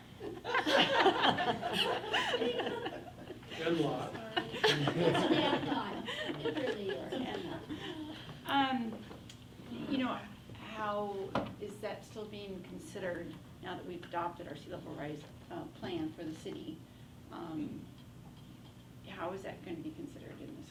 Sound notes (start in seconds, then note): 0.5 everyone laughs; 7.9 faintly speaking